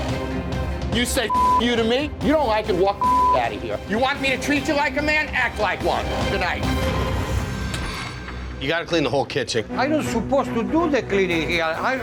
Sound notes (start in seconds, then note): 1.2 beep